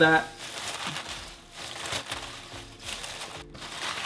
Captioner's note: cabbage crunching